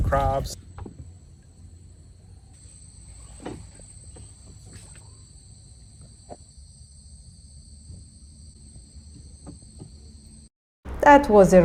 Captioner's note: crickets chirping